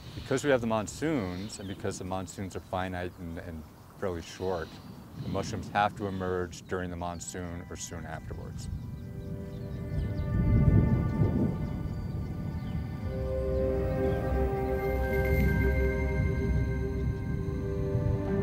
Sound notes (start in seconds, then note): 9.4 serene music; 9.4 wind blowing